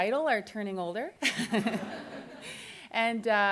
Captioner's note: laughs